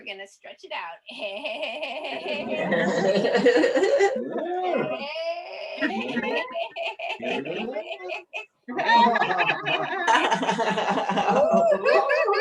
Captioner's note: laughter